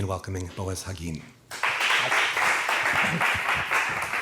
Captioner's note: applause